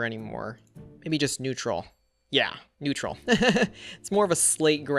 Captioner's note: laughs